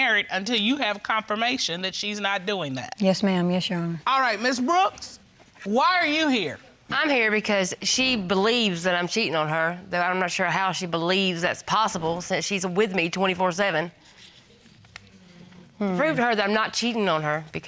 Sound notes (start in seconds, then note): none